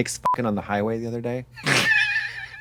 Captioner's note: beep